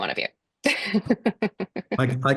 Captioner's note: laughs